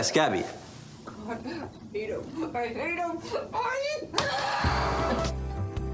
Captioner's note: groans; soft music